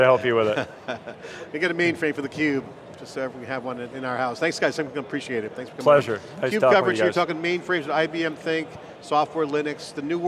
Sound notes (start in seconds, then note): 0.4 laughter